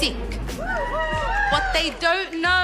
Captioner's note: cheering